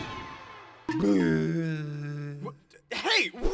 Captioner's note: Ben makes an idiot sound